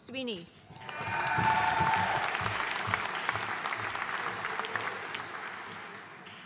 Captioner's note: audience cheering and applauding